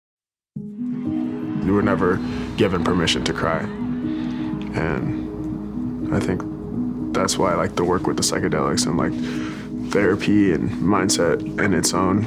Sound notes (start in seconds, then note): 3.8 crowd cheering